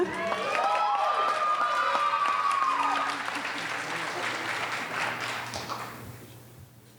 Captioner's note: audience cheering